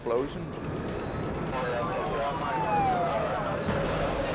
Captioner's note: sirens blaring